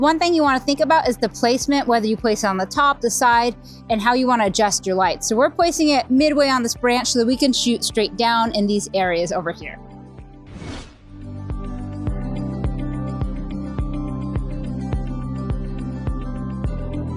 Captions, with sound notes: One thing you wanna think about is the placement, whether you place it on the top, the side, and how you wanna adjust your lights. So we're placing it midway on this branch so that we can shoot straight down in these areas over here. (screen whooshing) (lively music)